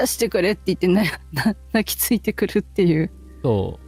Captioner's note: laughter